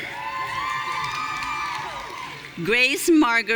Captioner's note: audience cheering